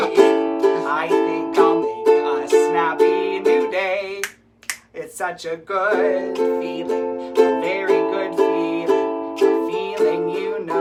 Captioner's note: snap snap